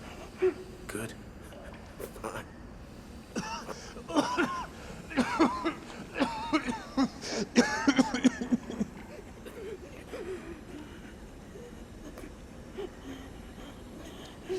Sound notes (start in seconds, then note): 3.4 coughing